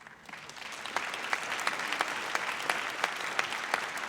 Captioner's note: audience applauds